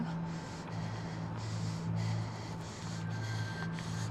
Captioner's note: breathing heavily